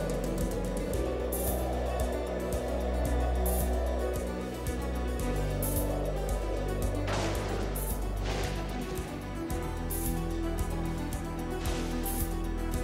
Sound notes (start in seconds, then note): 6.2 thunderclap